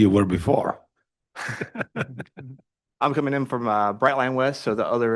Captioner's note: laughs